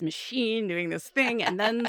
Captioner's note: laughs